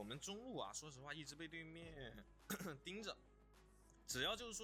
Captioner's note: cough cough